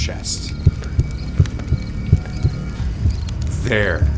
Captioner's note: heart beating